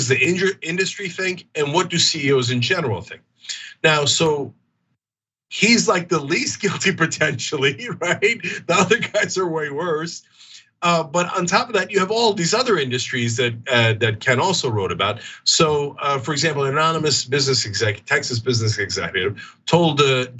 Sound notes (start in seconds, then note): 6.1 laugh